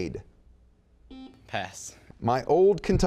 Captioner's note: buzzing